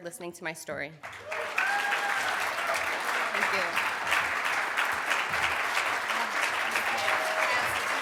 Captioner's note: clapping